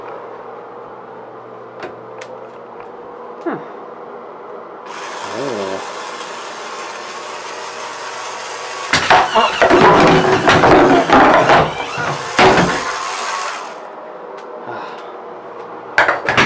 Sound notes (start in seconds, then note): 4.8 motor whirs; 8.0 machine whirs; 14.6 sighs